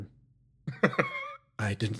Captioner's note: laugh